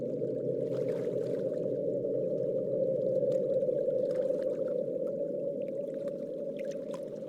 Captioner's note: water lapping noises